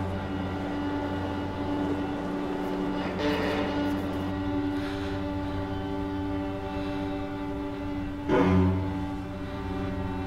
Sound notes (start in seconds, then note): 5.4 Scarlet sighs